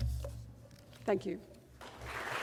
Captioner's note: audience applause